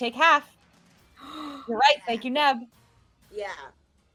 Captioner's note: gasps